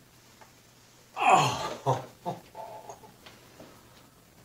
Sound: more intense groaning; sigh of relief at the pain subsiding

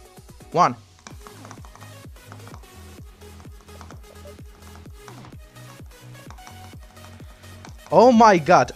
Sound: mouse click intensifies

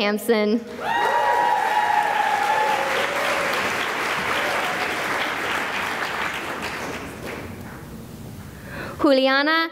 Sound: cheering and applause

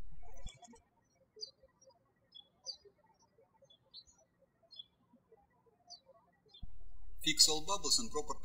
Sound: birds chirping

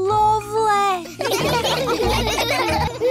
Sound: all laugh

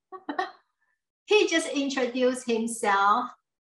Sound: laughs

